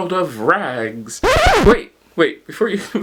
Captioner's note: record scratch